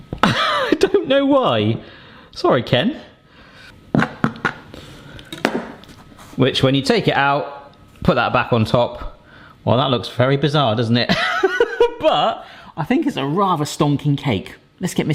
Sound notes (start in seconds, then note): 0.2 laughs; 11.7 laughs